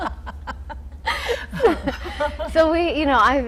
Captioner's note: laughing